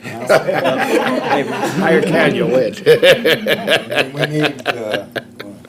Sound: board members laughing

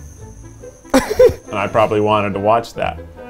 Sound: laughing

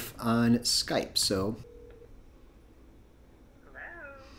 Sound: phone ringing

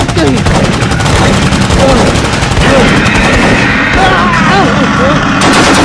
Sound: guns firing

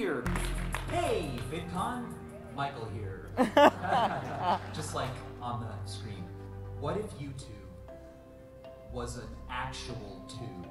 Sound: audience laughter

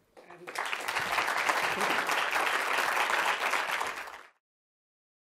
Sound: applause

